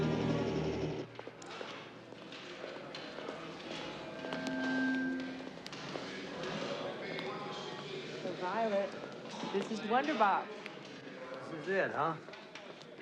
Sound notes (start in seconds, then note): 0.9 stage crew chattering; 4.2 speaker feedback